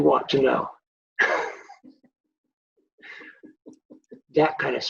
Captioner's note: both laughing